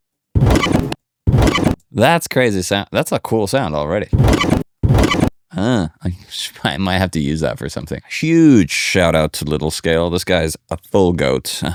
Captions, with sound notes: That's crazy sound. That's a cool sound already. (alarm beeping) Huh, I might have to use that for something. Huge shout out to little scale. This guy's a full goat.